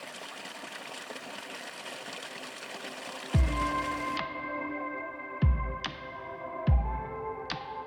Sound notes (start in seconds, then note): 0.0 water splashing; 3.3 upbeat music